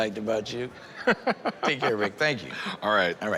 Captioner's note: laughs